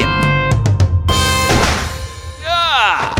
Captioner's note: thud; gunshot